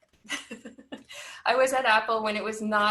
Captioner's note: giggles